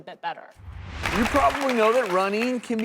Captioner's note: audience claps